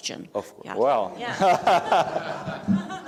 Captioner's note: laughs; laughter